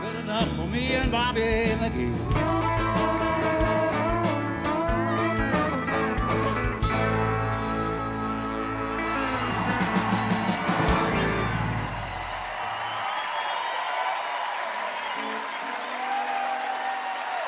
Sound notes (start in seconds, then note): 4.7 cheering and applause